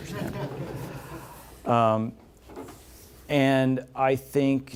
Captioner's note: laughter